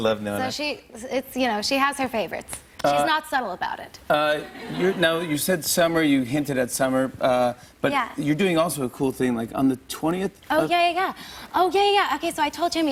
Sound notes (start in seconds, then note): 4.4 laughter